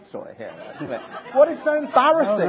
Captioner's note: audience laughing